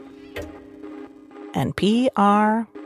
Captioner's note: soft electronic music; clock ticking softly